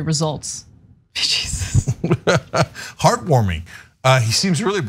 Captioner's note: laugh